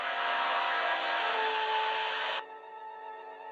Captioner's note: flame hissing